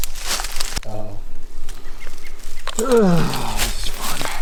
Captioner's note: harness clicking; bird chirping